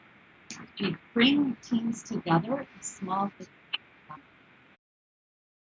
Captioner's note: murmurs